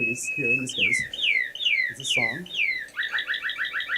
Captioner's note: chirping